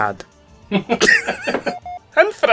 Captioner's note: off-screen laughter